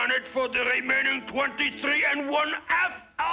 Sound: none

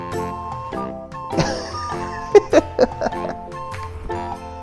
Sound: laughs

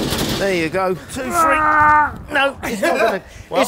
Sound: groaning

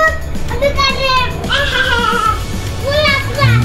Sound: child babbles; upbeat music

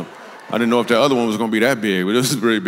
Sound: congregation laughs

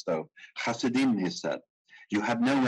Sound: speaking in foreign language

